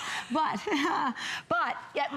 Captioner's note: laughter